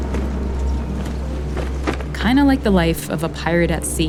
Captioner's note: soundbite of flag flapping